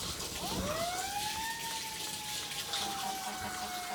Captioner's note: sirens blaring